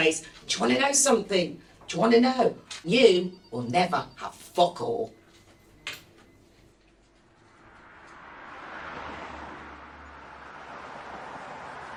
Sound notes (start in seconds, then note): 7.0 traffic roaring